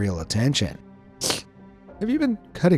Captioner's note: sniff